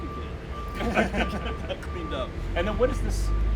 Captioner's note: men laughing